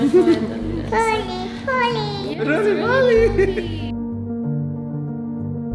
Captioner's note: babbling